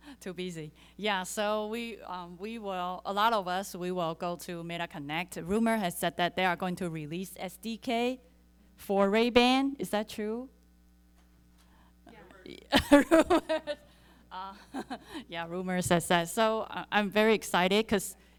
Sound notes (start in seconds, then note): 12.7 chuckles